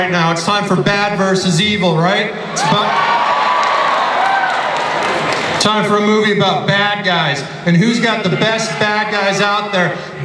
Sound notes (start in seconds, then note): 2.5 crowd cheering